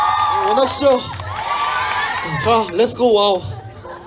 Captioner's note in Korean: 웃음